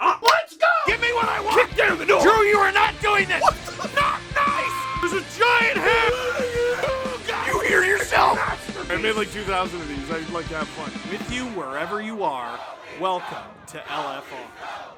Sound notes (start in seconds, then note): 3.1 screaming; 6.4 Harry potter screaming